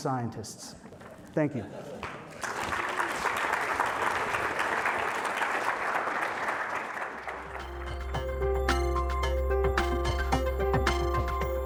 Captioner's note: applause